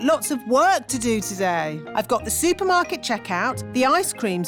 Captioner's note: none